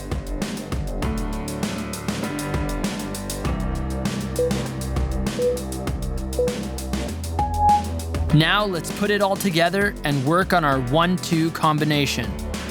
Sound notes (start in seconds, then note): 4.2 timer beeping